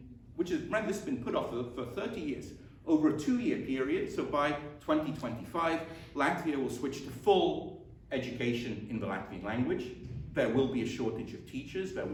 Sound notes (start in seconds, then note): none